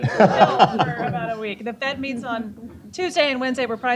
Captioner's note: laughter